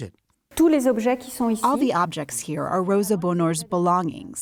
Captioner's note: through translator